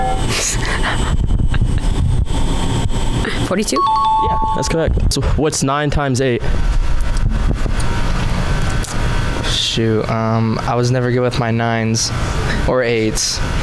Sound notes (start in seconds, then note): 0.3 laughing; 3.7 correct answer chime sound effect